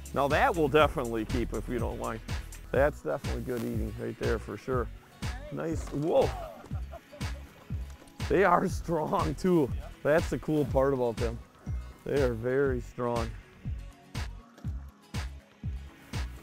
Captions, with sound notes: Now that we'll definitely keep! That's definitely good eating! Nice! Whoa! (laughing) They are strong too! That's the cool part about them! They are very strong!